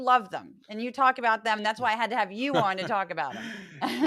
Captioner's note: laugh